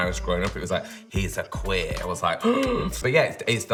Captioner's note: gasps